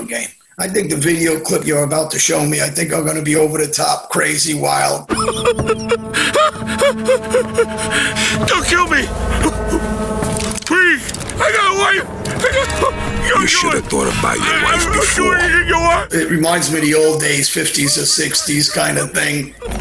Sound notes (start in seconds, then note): 5.1 hysterical crying